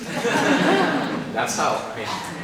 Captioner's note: participants laughing